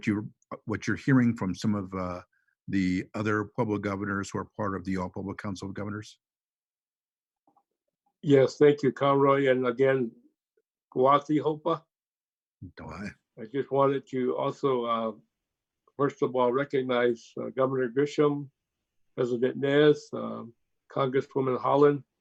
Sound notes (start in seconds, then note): 10.9 in native language